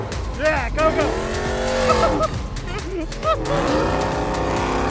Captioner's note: laughs